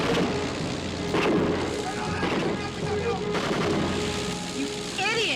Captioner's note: gunshots; men shouting in Spanish